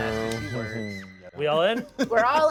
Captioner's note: laughs